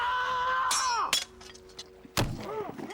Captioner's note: men yell